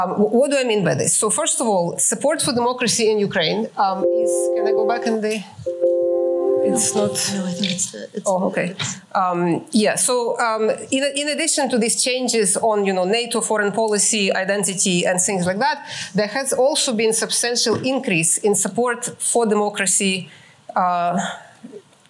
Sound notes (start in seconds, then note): 4.0 beeping